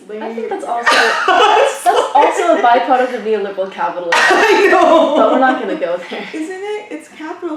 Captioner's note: laughs; laughs